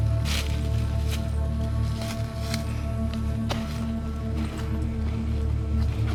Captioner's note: leaves rustling; ominous music